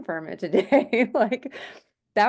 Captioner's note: laughing